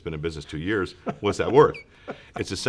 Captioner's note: laughs